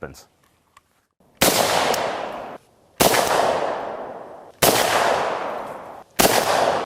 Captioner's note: gunshots